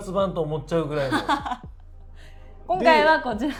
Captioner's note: laugh